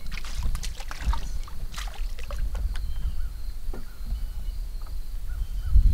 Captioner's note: splash